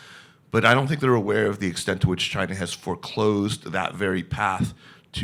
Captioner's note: none